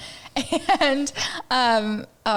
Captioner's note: laughs